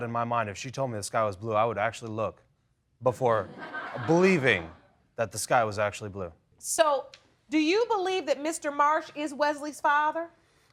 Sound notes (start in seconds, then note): 3.5 audience tittering